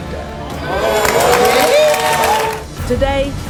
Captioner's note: audience applauding